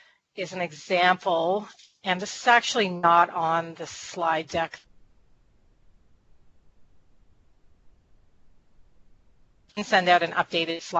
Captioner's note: audio cut out